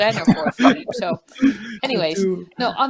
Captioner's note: laughing